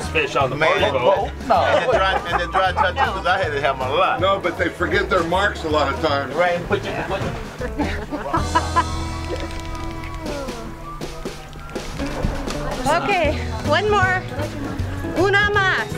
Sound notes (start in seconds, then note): 1.4 laughter and drowns out sounds; 7.6 lady laughs